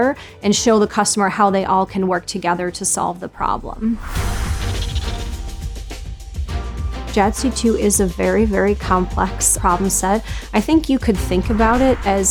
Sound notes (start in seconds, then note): 3.7 air whooshing; 4.2 epic music